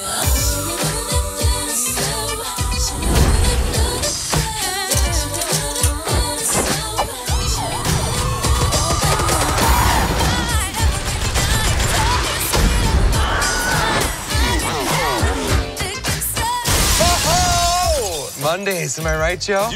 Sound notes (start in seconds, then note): 7.4 gunfire; 7.4 sirens wailing; 13.2 man screams